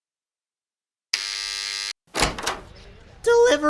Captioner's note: buzzer